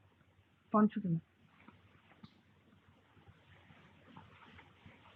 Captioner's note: speaking in foreign language